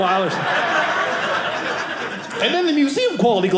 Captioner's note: audience laughing